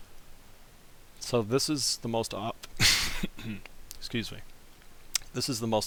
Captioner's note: cough